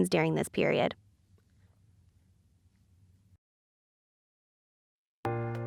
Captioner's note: no audio